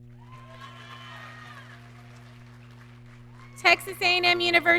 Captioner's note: audience cheering